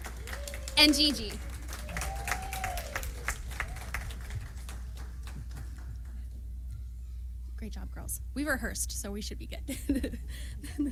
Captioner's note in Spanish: risas